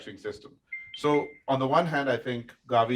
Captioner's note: device pinging